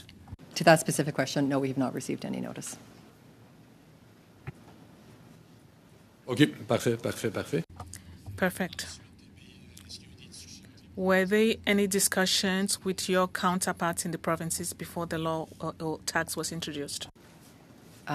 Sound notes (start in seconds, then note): 11.0 speaking French